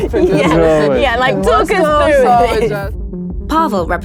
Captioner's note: laughing